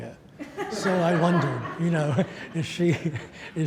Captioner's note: audience laughs